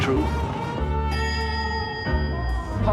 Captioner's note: elevator bell